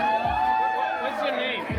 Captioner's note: crowd cheering